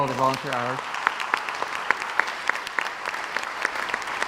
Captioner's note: crowd applauds